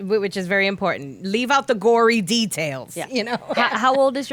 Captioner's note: laughing